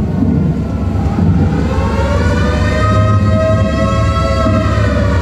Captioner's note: thunder; tornado sirens